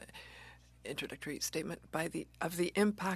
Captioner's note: speaking French